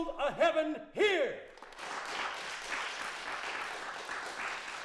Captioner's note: crowd clapping